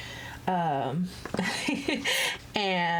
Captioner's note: laughs